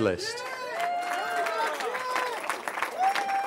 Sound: cheering

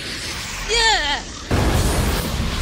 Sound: screams

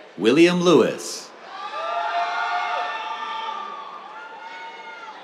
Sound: cheers

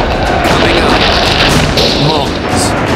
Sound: dramatic music; guns roaring

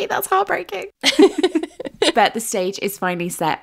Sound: laughing

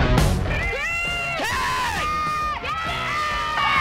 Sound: yelling

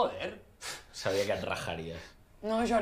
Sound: laughs

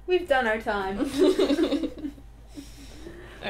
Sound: laughter

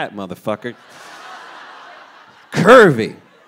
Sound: audience laughing

